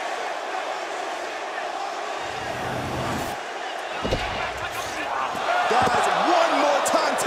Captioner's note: crowd cheering